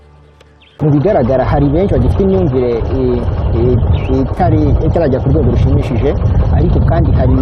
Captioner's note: speaking in Kinyarwanda